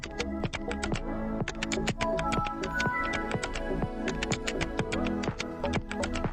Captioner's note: typing,music and windows 7 opening